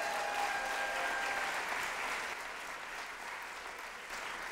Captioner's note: applause